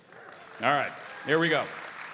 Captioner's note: audience applauding